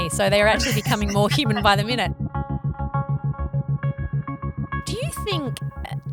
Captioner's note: laughter, music